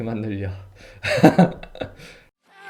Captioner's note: chuckles